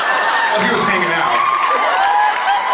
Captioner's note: laughs; cheers; cheers, applauds